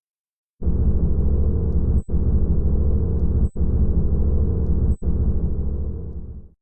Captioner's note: mechanical humming and a camera beeping